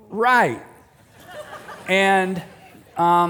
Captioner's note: laughter